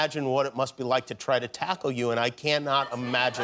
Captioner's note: cheers and applause